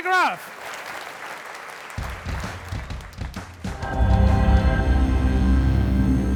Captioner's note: applause